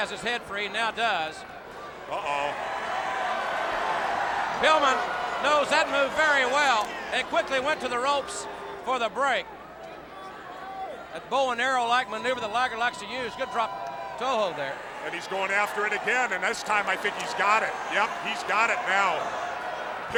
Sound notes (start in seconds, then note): 6.5 crowd clamoring